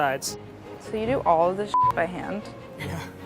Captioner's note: beeping